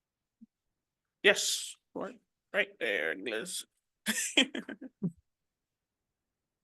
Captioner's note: chuckles